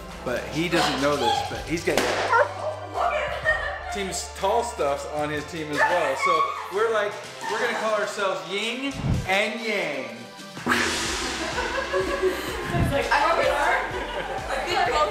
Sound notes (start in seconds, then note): 2.0 balloon pops; 2.0 dog whimpers; 10.6 gong chimes; 11.3 laughter